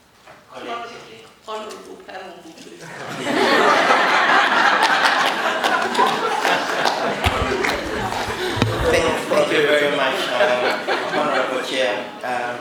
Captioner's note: laughs